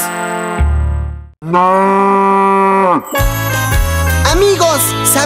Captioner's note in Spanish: Sonido de vaca